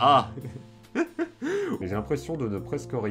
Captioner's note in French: Rires